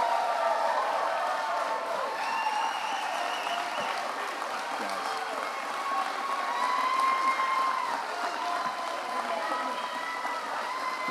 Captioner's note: applause